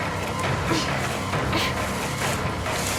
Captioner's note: Riley grunting